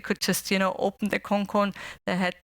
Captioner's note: non-english speech